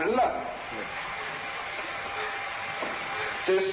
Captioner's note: static